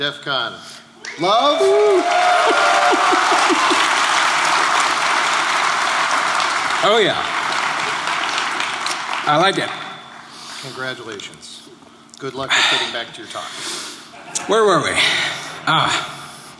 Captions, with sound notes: (Applause) >> Oh yeah! I like it. >> Congratulations.Good Luck at getting back to your